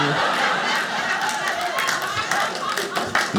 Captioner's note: audience laughing